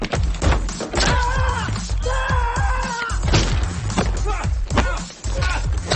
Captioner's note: guy continues speaking foreign language; dramatic music; punches thudding